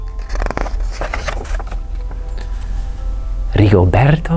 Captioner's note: page turns